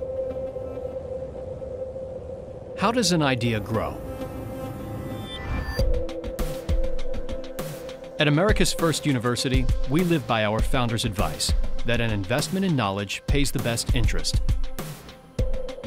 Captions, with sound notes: - [Voiceover] How does an idea grow? At America's first university, we live by our founder's advice that an investment in knowledge pays the best interest.